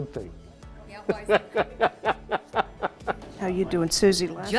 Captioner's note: laughing